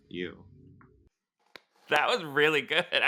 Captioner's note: claps